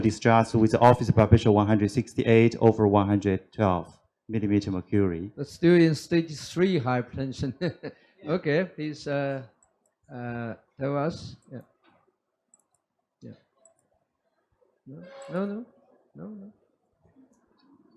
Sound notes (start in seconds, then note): 7.5 laughs